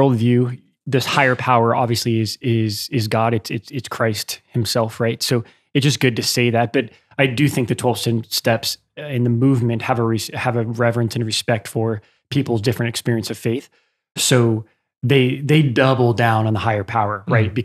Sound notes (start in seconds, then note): none